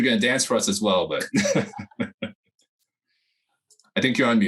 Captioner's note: chuckles